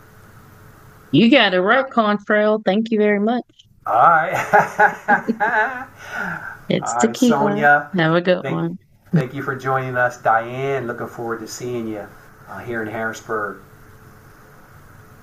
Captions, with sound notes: - You got it right, Contrell. Thank you very much. - All right. (laughs) - It's Tekeyla, have a good one. - Thank you for joining us, Diane. Looking forward to seeing you here in Harrisburg.